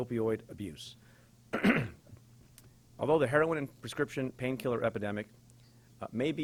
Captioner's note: clears throat